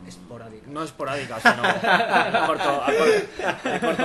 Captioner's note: laughs